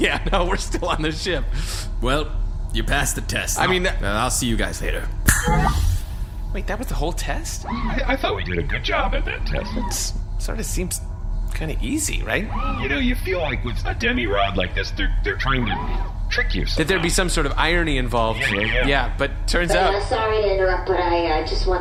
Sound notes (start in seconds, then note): 0.0 laughing; 5.7 snaps fingers